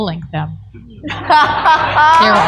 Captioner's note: laughter